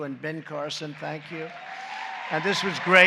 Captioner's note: applause